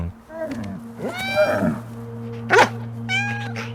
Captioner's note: cat mewing; dog barking; cat mewing